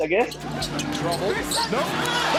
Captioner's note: shoes squeak